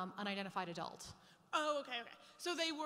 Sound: voiceover

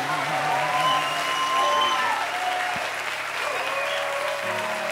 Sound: cheers and applause

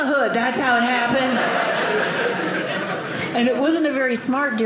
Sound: audience laughing

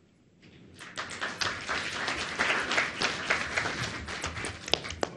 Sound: audience applauds

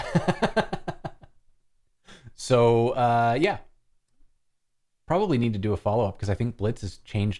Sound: laughter

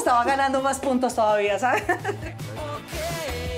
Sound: laughs

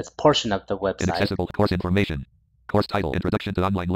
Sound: screen reader voice

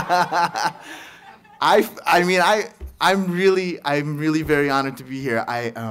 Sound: laughs

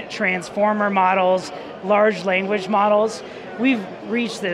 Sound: none

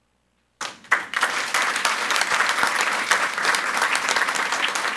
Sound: audience applauds

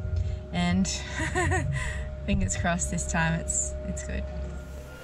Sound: laughs

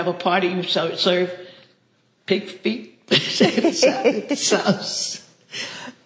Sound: laughs

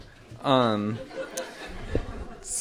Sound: laughter

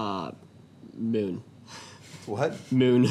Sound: chuckles

